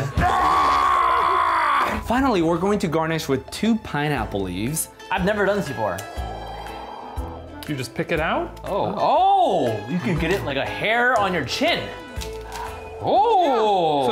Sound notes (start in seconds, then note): 0.1 shouting; 6.5 screen whooshes